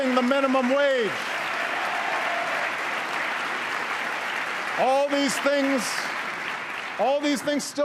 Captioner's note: applause; applause